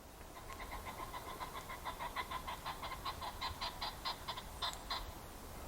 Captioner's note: wild pheasant calling